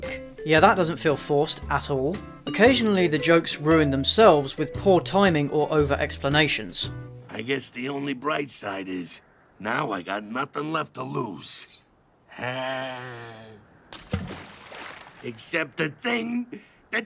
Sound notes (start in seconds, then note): 0.1 sarcastic; 13.9 water splash